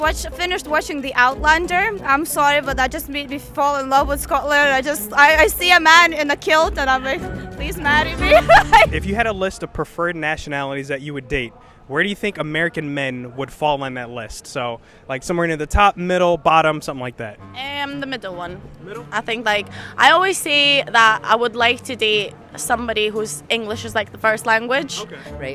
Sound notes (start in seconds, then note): 7.1 laughs